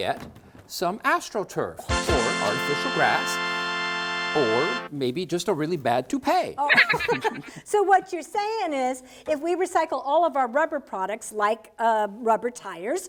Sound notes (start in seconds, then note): 1.8 ta-daa!; 6.7 silly giggle!